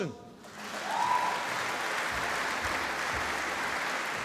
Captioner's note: applause